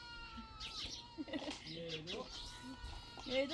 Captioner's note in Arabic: بكاء